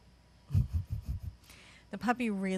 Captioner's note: chuckles